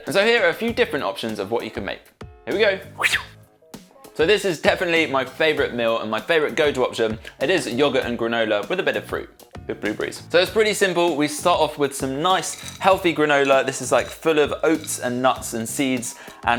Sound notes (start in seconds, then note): 2.9 makes whooshing noise